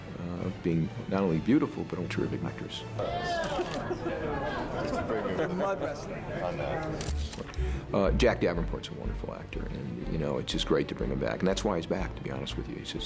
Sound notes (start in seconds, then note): 3.0 chattering; 3.2 laughter